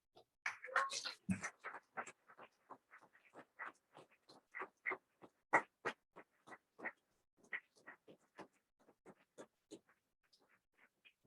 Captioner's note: applause